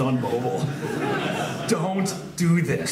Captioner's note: laughs